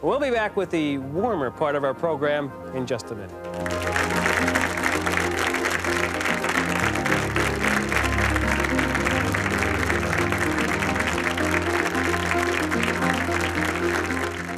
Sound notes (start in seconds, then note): 3.9 applause; 6.8 gentle music